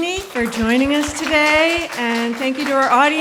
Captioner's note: audience clapping